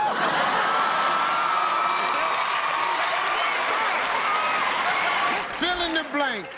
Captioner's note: cheers and applause